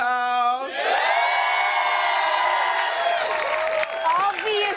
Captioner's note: cheers and applause